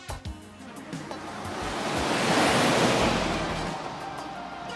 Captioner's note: car whooshing